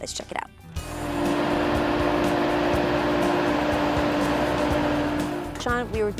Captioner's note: excavating equipment running